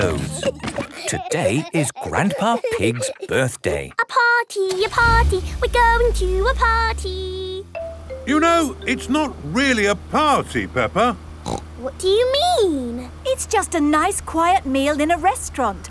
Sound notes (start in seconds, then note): 0.0 giggling; 3.8 sing song voice